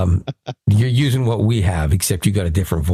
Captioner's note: laughing